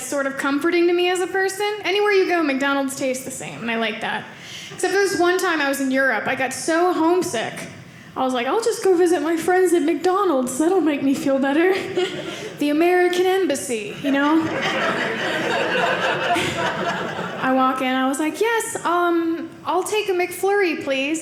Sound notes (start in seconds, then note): 13.9 audience laughing